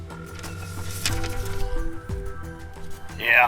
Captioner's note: phone rings